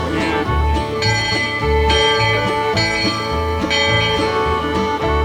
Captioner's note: steamboat bell chiming